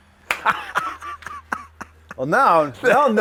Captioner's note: man laughs